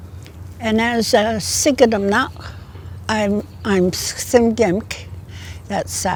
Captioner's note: in Gitxsan